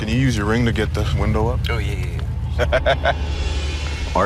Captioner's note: laughs